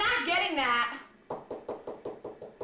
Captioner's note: door knocks